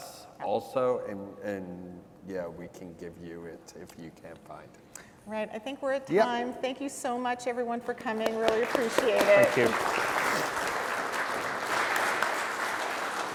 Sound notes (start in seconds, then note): 8.2 applause